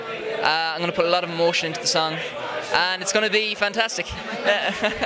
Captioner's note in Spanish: risas